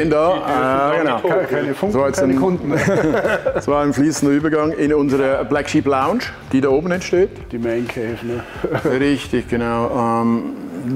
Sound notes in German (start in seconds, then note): 2.6 Gelächter; 8.4 lacht